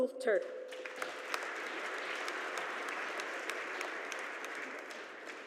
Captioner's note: audience applauding